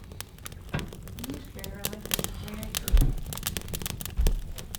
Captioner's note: fire crackling